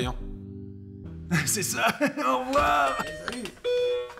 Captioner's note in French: sonnette